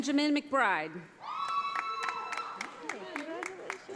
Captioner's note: audience applauding